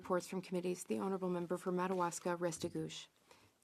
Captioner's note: speaking French